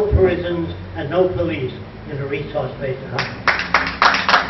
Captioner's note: applause